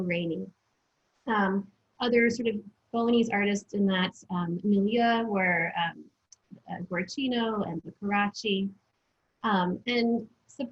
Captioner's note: foreign language